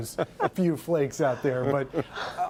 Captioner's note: laughter